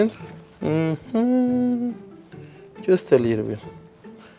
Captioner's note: humming